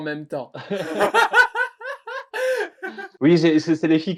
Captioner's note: hahahahahahha